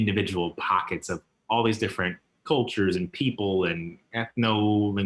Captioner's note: chuckles; chuckles